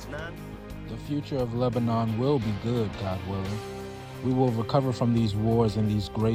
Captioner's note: through translator